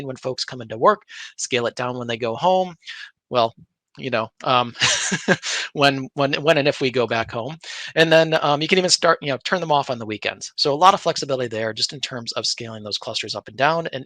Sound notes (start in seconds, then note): 4.6 laughing